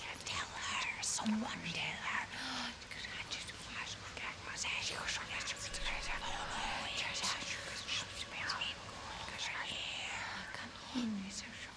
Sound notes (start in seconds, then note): 2.6 voices whispering